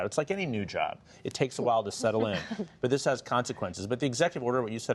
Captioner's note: laughter